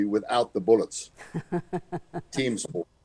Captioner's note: laughs